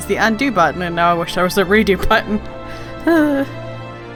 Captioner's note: laugh sigh